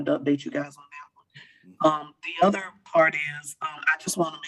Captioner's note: choppy audio